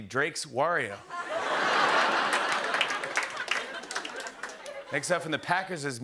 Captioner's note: laughter